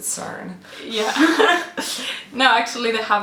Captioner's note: both laughing